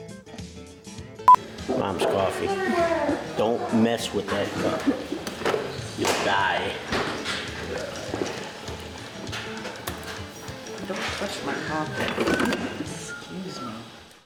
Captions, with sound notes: - Mom's coffee, don't mess with that cup, you'll die. (coffee splashing into cup) - Don't touch my coffee. (coffee pot clunking in stand) Excuse me.